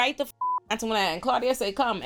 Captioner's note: beep